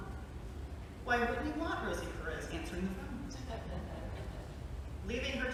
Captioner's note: light laughter